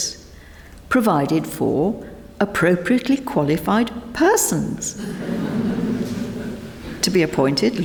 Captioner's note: members laugh